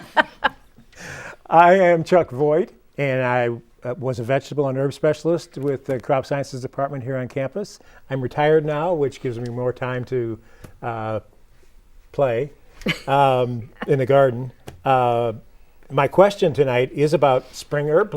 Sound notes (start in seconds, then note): 0.0 laughing